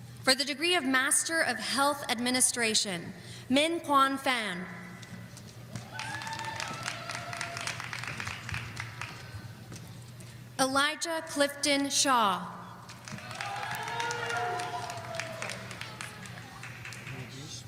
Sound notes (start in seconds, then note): 5.7 audience applauding; 12.9 audience applauding